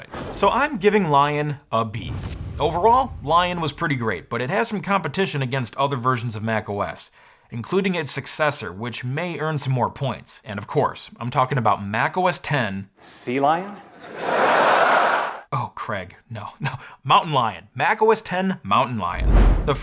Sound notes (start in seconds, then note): 13.7 audience laughing